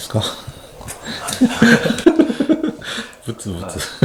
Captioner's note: laughs